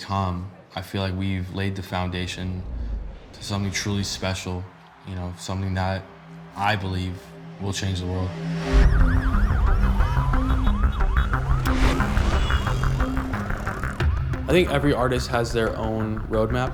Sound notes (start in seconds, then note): 8.6 siren blaring; 8.8 horns honking